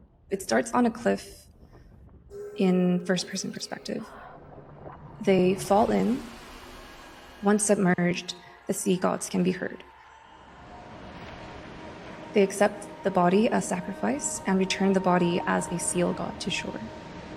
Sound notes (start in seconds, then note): 0.0 wind blowing; 10.3 waves crashing; 11.0 eerie music; 17.1 eerie music; 17.1 waves crashing